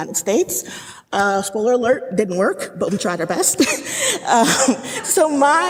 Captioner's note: laughing